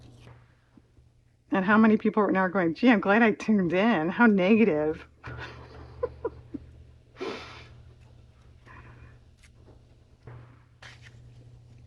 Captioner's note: laughs